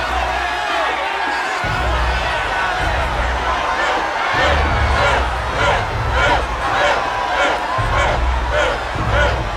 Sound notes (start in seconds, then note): 3.6 crowd chanting